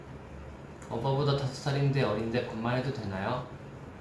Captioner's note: Korean